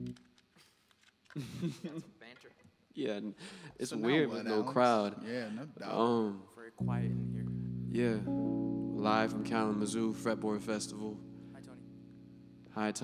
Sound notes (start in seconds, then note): 1.3 laughing